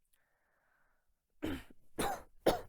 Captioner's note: coughing